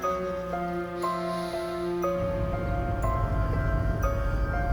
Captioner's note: sniffing